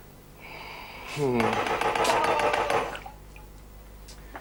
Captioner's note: knocking